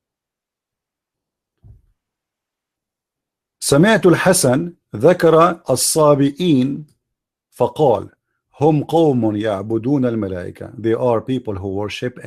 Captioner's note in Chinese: 念阿拉伯语